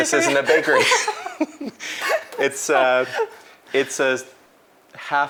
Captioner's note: laughs